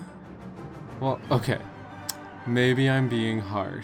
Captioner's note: smacks lips